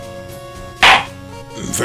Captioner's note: gavel slams!